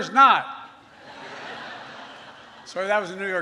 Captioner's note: laughter